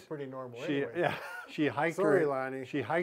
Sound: chuckles lightly

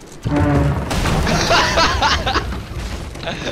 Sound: laughing

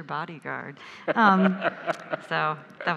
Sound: laughs

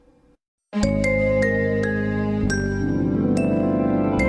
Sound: remastered wondrous chime plays

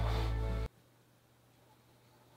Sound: awkward silence

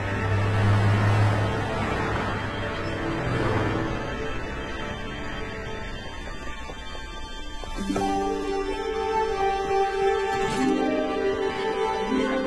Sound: car horn honks

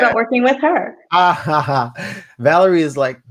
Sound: laughs

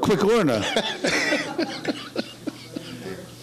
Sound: laughing

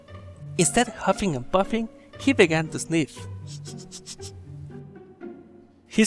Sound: sniff sniff

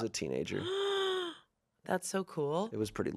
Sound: gasps

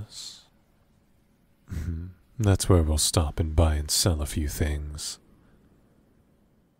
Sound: chuckles

